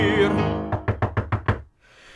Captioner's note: door knocking